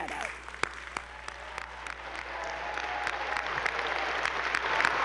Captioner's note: attendees applauding